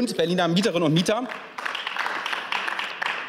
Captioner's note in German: Beifall